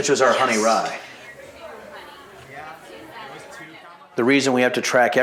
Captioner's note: crowd noise